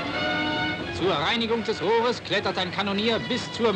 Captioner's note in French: German spoken audio